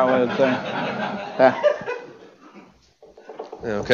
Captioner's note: laughter